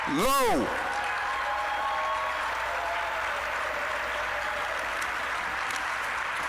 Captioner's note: applause, cheering; applause